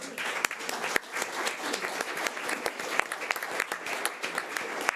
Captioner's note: audience applause